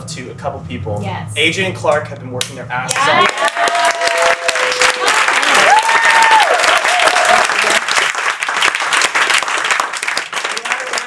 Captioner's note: cheering